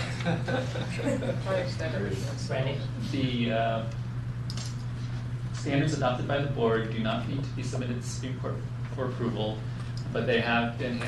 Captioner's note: laughter